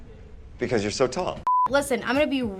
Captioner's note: beeping